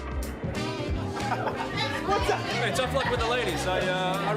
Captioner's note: laughs